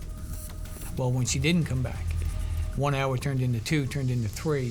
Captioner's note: pat